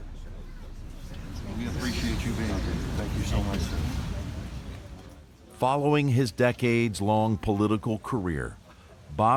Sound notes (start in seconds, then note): 0.0 crowd chattering